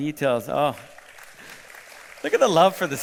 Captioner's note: applause